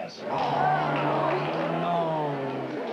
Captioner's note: audience aws